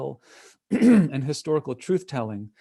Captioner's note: clear throat